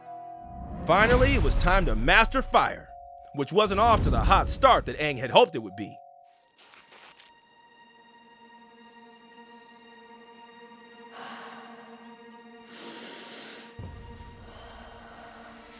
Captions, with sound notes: Finally, it was time to master fire, which wasn't off to the hot start that Aang had hoped it would be. [exhaling] [inhaling] [exhaling]